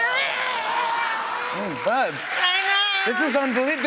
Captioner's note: applause